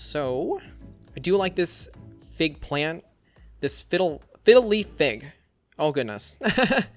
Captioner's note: laughs